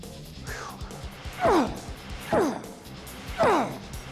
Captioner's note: grunting